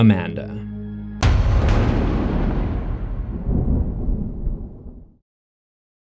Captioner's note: thunder